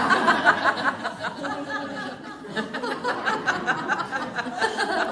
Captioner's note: laughter